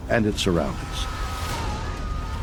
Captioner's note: screaming